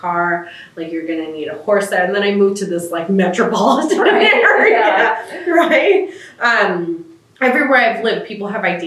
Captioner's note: laughter